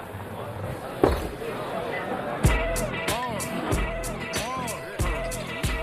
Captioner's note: glass set down